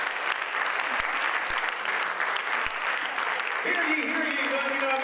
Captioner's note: audience applauds